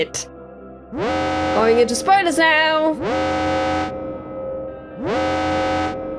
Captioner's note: alarm